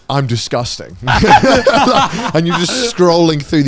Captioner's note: everyone laughing